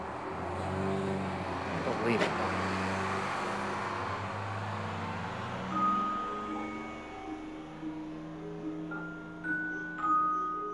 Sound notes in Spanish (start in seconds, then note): 3.4 ruido del autobús; 6.6 música pensativa